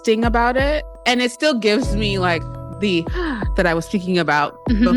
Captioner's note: gasps